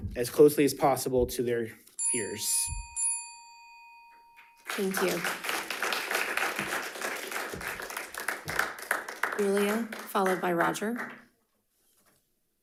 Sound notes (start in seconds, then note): 4.6 audience applauding